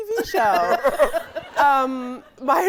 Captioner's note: audience laughing; guy laughing